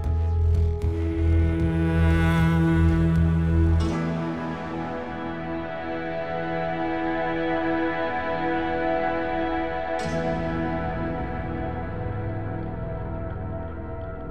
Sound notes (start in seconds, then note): none